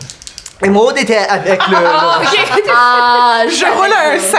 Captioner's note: Arielle laughs